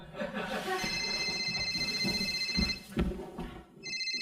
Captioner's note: phone Rings